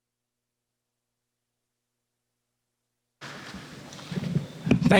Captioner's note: applause